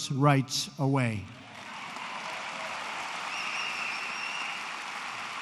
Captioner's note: applause